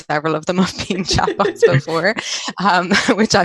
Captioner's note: laughs